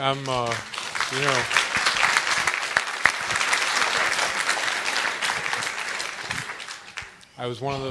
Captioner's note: applause